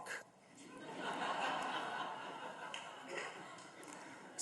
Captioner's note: audience laughs